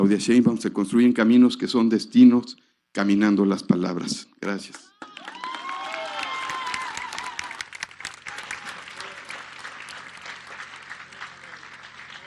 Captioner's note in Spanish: aplausos